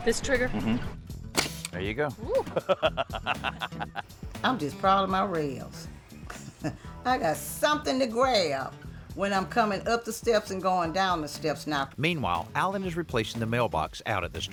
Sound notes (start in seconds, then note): 2.3 laughing; 6.0 laughs